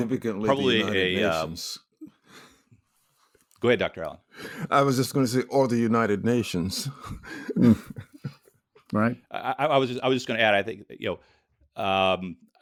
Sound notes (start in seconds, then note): 7.2 laughs